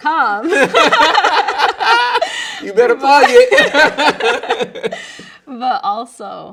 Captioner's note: both laughing